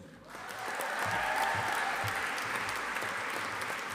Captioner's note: audience applauding